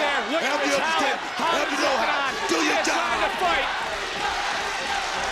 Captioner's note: audience chanting